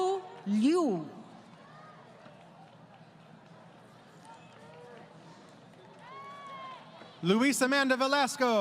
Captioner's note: crowd Cheering